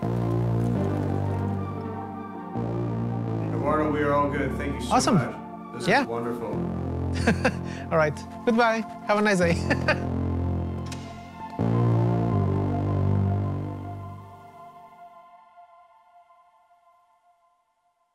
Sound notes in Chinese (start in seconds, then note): 7.1 笑聲; 9.5 笑聲